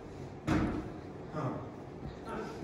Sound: door slams

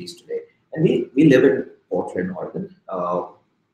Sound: speaking softly

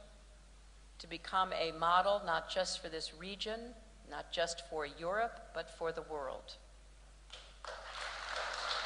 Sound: applause

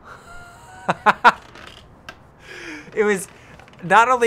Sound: laughs

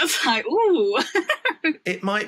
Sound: laughs

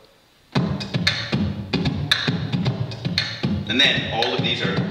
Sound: beatboxes

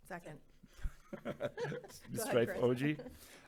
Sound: members laughing

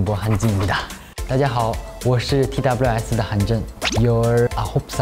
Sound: introduces himself in Chinese as well

